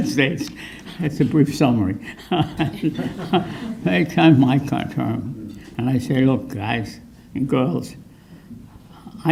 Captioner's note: chuckles